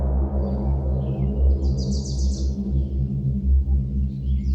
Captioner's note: birds chirping